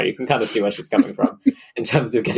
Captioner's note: laughs